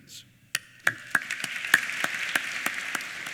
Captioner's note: applause